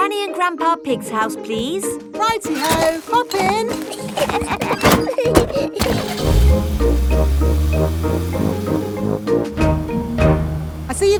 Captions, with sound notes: Granny and Grandpa Pig's house, please. -Righty-ho! Hop in. -(LAUGHING) (CAR ENGINE STARTS)